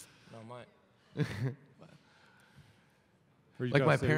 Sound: chuckle

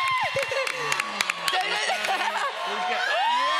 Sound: cheering continues

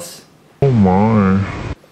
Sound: interviewee, distorted

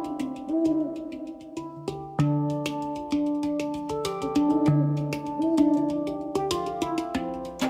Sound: owls hooting

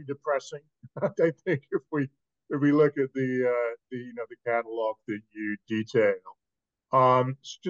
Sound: laugh

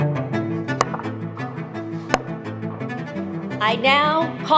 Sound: upbeat string music; sound of a stick pounding on the ground three times

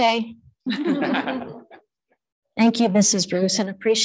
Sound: group chuckling

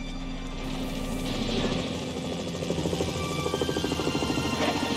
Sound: helicopter buzzing

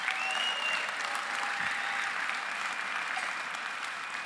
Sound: applause

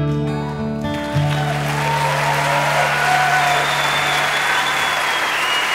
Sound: audience cheering

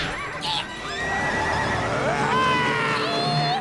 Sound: screaming

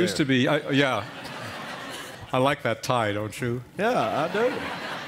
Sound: laughter

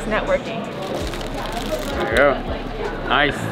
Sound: wrapper Wrinkling

